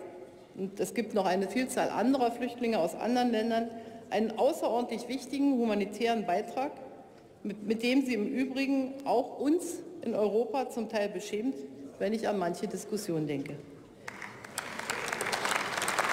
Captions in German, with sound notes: es gibt noch eine Vielzahl Flüchtlinge aus anderen Ländern. Damit leistet die Türkei einen außerordentlich wichtigen humanitären Beitrag, mit dem sie im Übrigen auch uns in Europa zum Teil beschämt, wenn ich an manche Diskussion denke. (Beifall bei der CDU/CSU und der SPD)